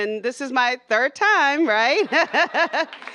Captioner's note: laughter